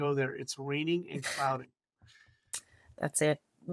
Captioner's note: laughs